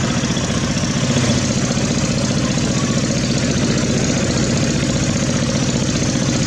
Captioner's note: diesel Engine Sound